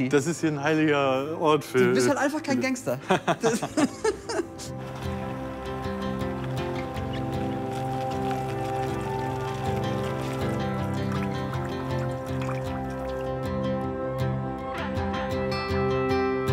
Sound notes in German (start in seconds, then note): 3.1 Lachen; 8.3 Ruhige Musik